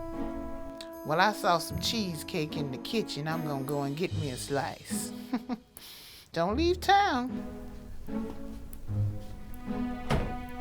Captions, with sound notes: - Well, I saw some cheesecake in the kitchen. I'm going to go and get me a slice (chuckles). Don't leave town. (soft music)